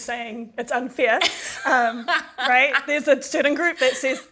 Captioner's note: laughs